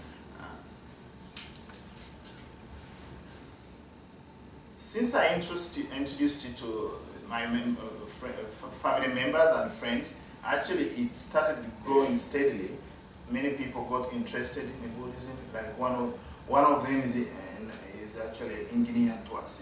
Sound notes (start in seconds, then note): 1.1 silence; 1.4 paper rustling